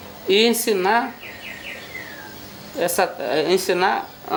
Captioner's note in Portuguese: pássaros cantando